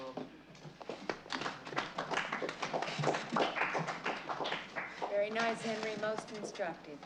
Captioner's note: polite Applause